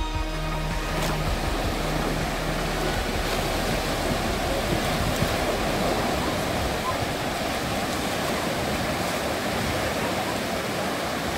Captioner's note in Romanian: with specific ambient sounds - sea waves